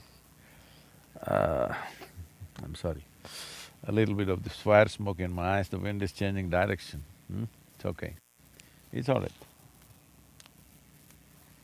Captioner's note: laughs